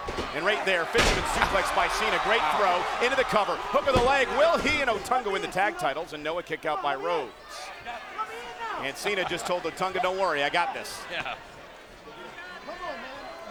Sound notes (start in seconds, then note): 3.6 hands thudding; 8.1 King laughs; 11.0 laughs